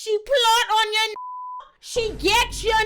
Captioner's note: beep